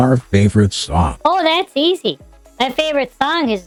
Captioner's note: sarcastically